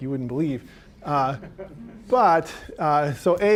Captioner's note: audience chuckling